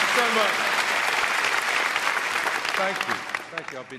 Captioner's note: everyone applauding